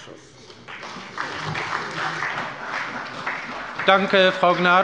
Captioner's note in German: Beifall bei der SPD